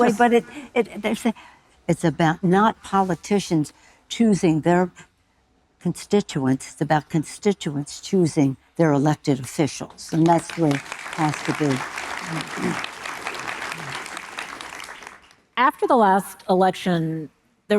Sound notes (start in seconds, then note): 11.9 audience applauding